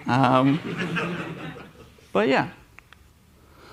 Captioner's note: laughter